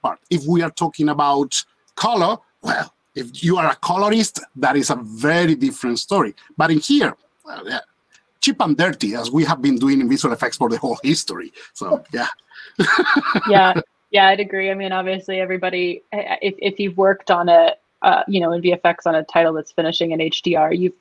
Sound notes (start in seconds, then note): 12.5 laughs